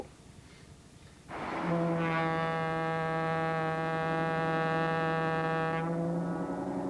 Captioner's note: ship's horn blows